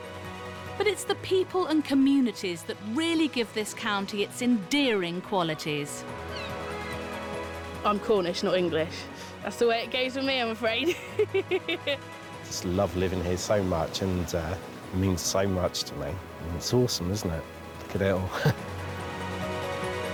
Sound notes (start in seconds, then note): 10.8 laughs; 18.2 chuckles